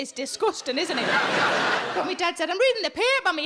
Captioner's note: audience laughing